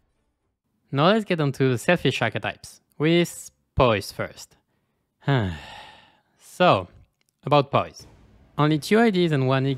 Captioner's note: sigh